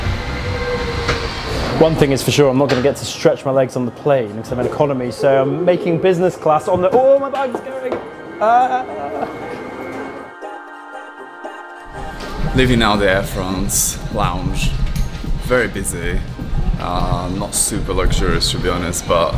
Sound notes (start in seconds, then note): 0.0 air whooshing; 8.8 yells